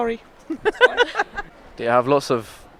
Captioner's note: laughs